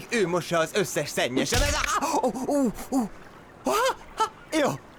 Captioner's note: grunts